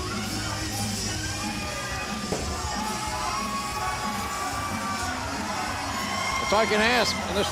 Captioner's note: crowd cheering